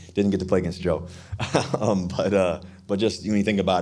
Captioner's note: Russell laughing